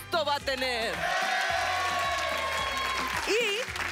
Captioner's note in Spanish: Aplausos y exclamaciones